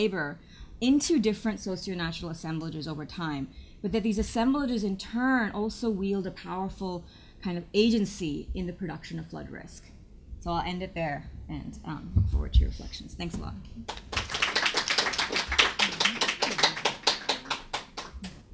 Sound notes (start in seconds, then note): 13.8 clapping